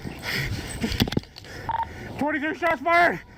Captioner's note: officer huffing